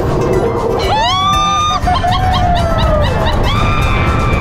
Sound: both yell and laugh

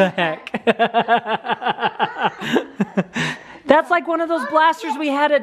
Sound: laughs

